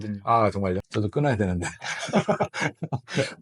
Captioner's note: laughs